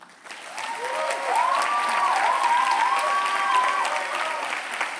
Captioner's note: cheering